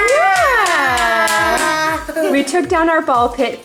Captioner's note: cheering